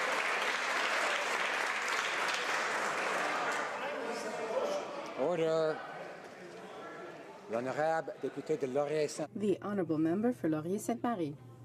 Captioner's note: some Applause